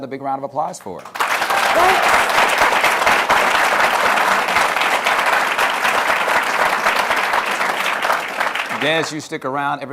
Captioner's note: applause